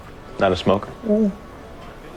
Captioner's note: voiceover